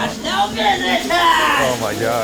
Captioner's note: prisoner yelling; laughing